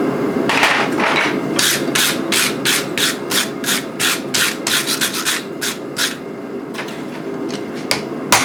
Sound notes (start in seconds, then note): 1.6 brushing steel